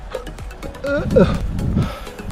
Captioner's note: keeps hiccupping